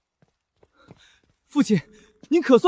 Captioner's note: wind